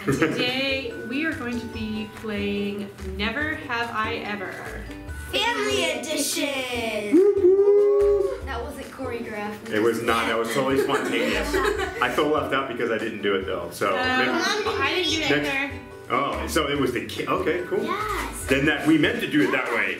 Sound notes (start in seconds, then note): 10.3 laughing